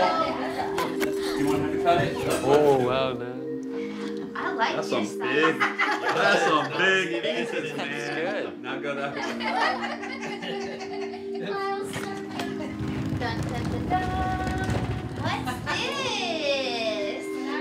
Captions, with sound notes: Kyle! That's a big--that's a big piece, man! (laughing) (suitcase rolling) Dun da da duh! What's this?